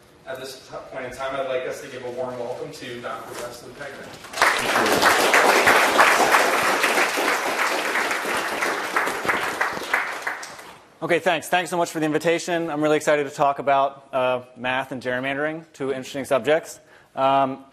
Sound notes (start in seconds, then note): 7.2 applause